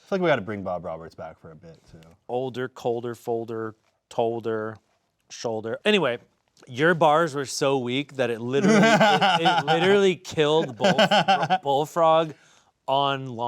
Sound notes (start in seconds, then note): 8.6 laughing